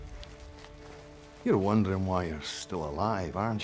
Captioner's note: scottish accent